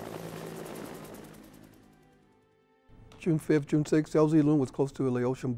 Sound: helicopter sound

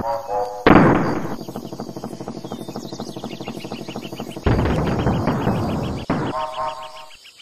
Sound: barrel elevator launching and crashing

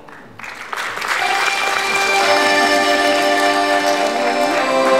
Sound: applause

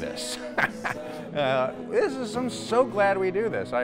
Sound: laughs

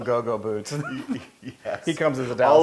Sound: laugh

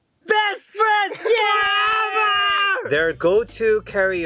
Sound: shouts

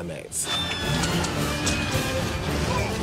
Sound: all shrieking

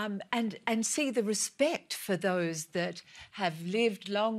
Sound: none

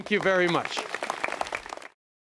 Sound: applause

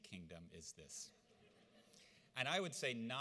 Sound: audience laughs

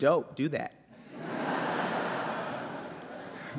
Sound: laughter

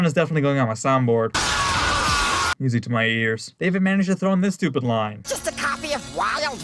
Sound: scream

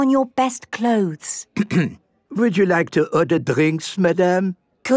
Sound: clears throat

